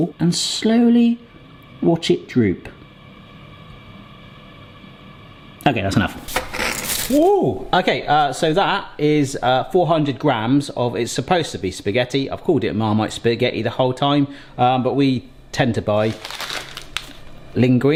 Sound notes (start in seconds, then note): 6.4 spaghetti clattering